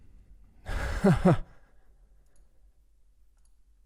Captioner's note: chuckles